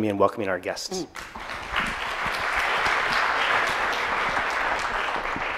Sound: audience clapping

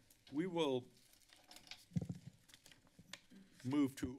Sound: paper rustling

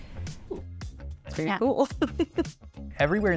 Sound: chuckling

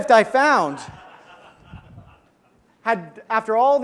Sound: audience laughs

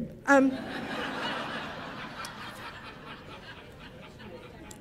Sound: audience laughing

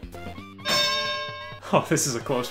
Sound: bell dings

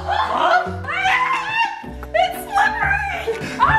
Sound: screams

